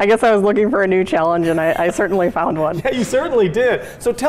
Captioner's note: laughing